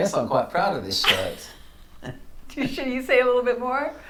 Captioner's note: laughs